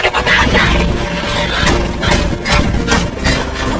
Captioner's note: shouting, groaning